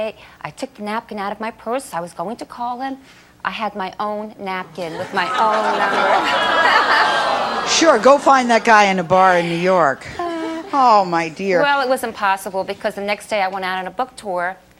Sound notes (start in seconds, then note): 4.6 audience awes